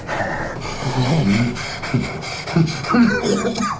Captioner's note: Miles chuckles and pants; Miles coughs